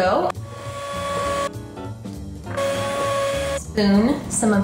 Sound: upbeat music; whisk whirring

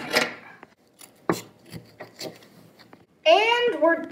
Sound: snipping sound

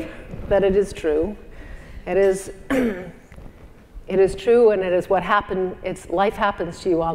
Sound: cough

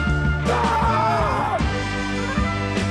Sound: yelling

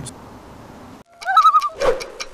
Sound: loon call

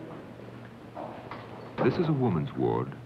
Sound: footsteps

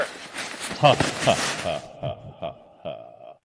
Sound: laughter

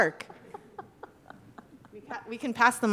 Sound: laughing

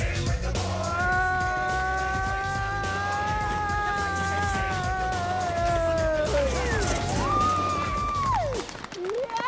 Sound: screaming

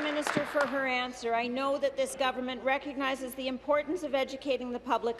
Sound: applause

